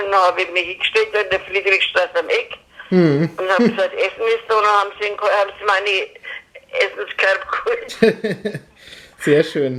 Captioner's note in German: lacht